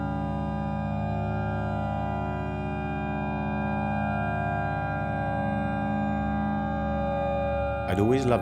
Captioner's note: ambient tone sounds